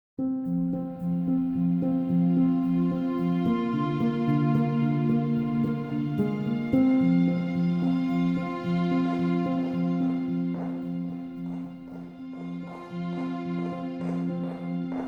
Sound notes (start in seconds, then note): 10.8 footsteps clacking